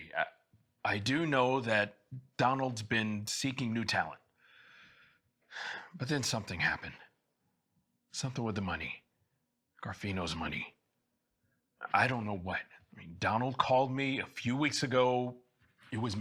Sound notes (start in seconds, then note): 5.6 sighs